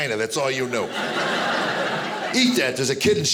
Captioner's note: audience laughing